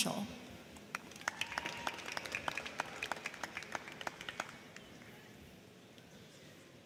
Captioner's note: crowd clapping; crowd cheering